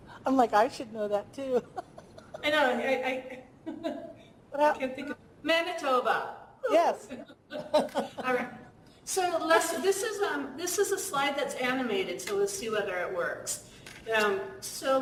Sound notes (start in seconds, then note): 1.4 laugh; 7.1 laughter